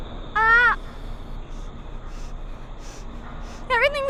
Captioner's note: Nyah shrieks; Nyah groans; panting